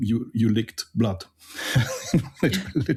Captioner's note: laughs